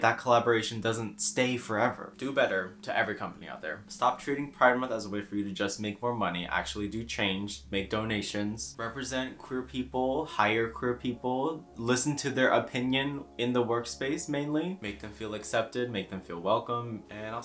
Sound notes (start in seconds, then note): none